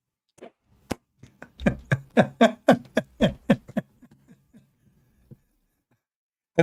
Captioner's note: Ketawa